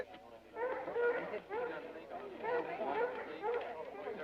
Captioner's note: crowd chattering